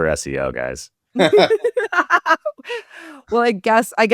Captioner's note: laughs